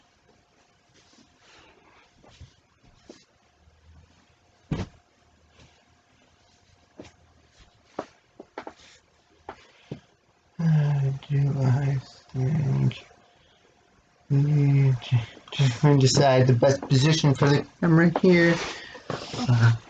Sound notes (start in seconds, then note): 4.7 soft plop of pillow laid on the ground; 10.3 murmurs to self